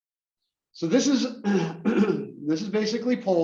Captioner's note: cough